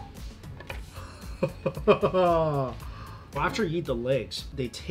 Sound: laughs

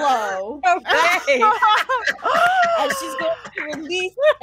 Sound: all laughing

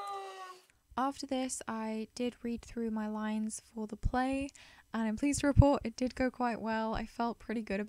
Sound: voiceover

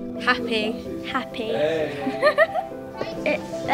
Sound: laughter

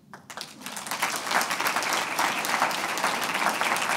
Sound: applauding

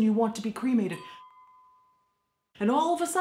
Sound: dinging

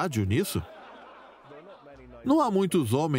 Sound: laughing; voiceover

